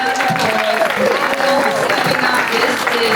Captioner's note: applause